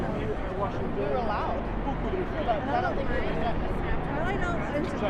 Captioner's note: crowd chatters